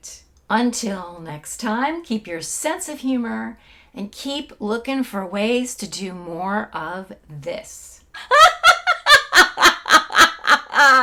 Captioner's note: laughing